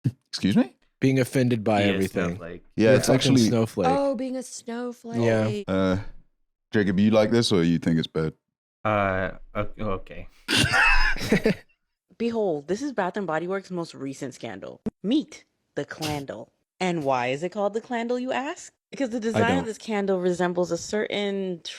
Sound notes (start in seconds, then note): 10.5 both laugh